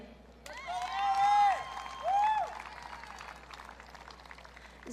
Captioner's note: audience cheering